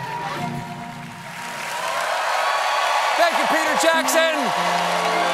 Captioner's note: cheers and applause